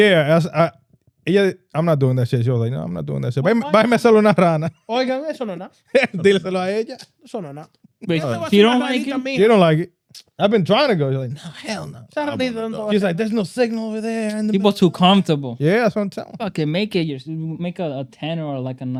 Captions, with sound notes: Yeah, I'm not doing that shit. She was like, no, I'm not doing that shit. (Speaking In Foreign Language) She don't like it. She don't like it. I've been trying to go. She's like, no, hell no. She's like, there's no signal over there. People too comfortable. Yeah, that's what I'm telling. Okay, make it, make a tenner, or like a